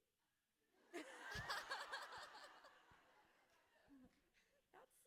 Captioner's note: everyone laughing